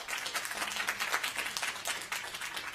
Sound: applause

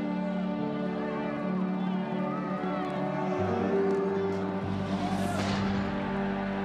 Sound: crowd yelling; crowd cheering

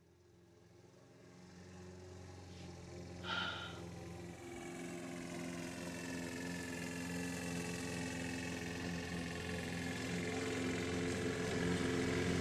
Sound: lawnmower Sounds

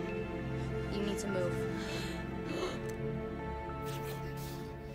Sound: heavy breathing

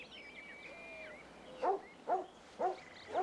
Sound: Striker barking

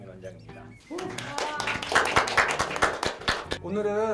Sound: cheer

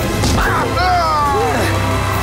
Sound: screaming

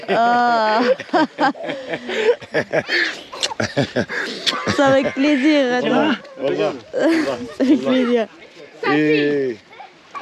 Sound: laughs

